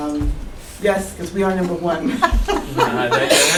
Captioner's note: laugh